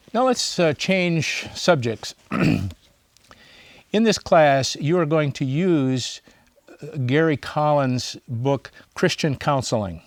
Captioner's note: clears throat